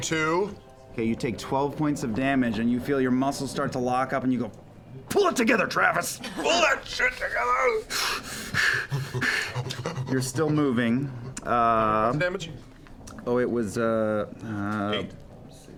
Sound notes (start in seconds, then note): 7.8 breathes heavily